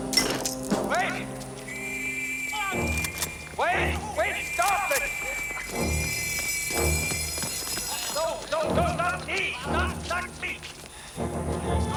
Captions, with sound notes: WAIT! [WHISTLE BLOWING] WAIT! WAIT! STOP IT! [ALARM SOUNDING] NO. NO, NO. NOT ME. NOT ME.